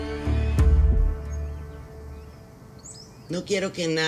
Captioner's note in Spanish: Aves gorjean